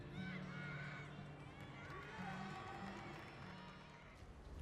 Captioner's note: gymnasts cheer